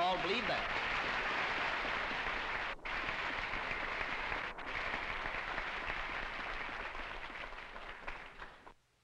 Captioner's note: applause